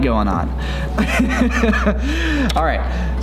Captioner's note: laughs